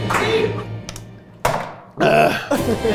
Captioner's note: can clunks